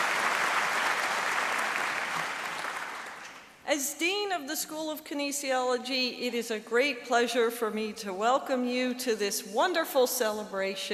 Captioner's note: applause